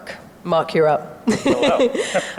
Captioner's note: laughs softly